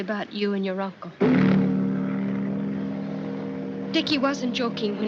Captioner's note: horn Blowing